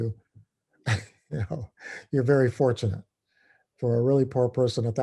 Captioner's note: laugh